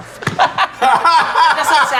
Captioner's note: laughing